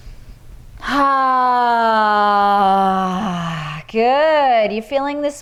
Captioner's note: inhales deeply; exhales deeply